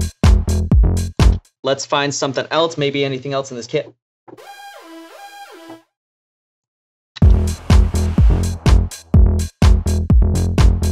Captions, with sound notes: Let's find something else, maybe anything else in this Kit. (siren-like sounds) (updated house beats)